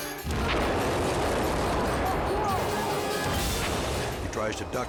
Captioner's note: explosion blasting